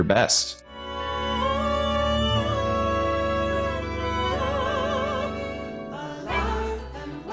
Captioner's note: calming music; humming